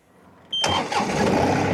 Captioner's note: engine revving